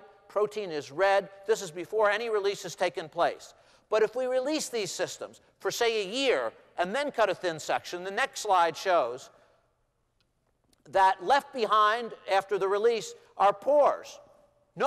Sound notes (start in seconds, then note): none